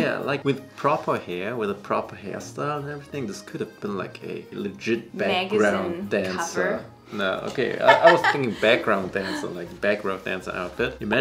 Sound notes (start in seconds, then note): 7.6 laughs